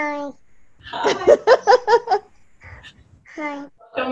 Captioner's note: laughing loudly